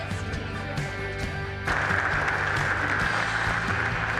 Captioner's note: applause